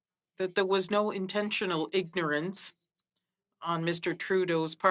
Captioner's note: speaking French